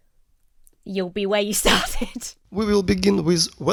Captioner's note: chuckles